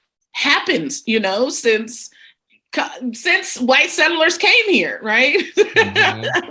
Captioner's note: laughs